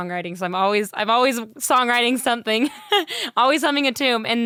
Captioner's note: laughs